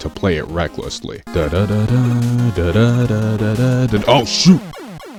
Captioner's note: hums